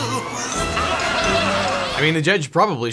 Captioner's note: audience laughing